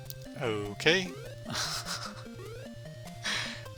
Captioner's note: laughing